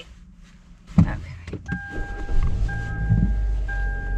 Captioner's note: car dings